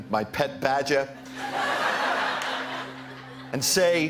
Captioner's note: laughter